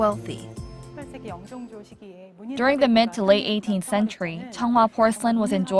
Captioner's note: korean